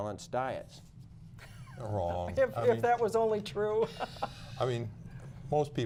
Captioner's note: laughter